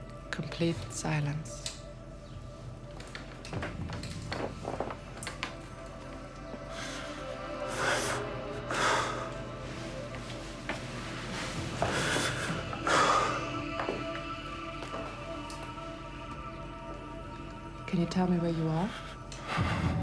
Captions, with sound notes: Complete silence. (man gasping) Can you tell me where you are?